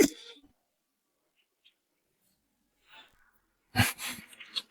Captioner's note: laughs